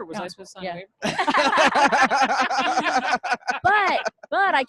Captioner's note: laughing